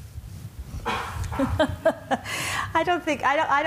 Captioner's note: laughs